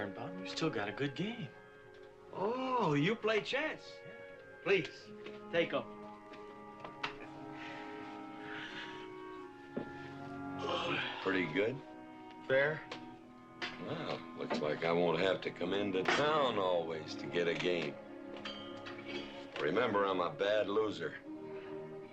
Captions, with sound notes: Oh, no, Mr. Birnbaum, you still got a good game. Oh, you play chess? Yeah. Please, take over. (JAKE YAWNING) Pretty good? Fair. Well, it looks like I won't have to come into town always to get a game. Remember, I'm a bad loser.